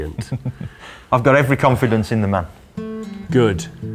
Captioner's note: chuckles